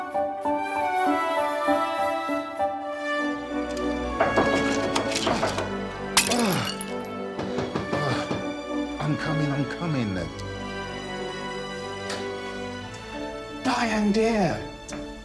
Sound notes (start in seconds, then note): 2.8 sentimental music; 4.1 Diane knocking on door; 6.0 statue shattering; 6.1 James groaning; 7.2 Diane knocking on door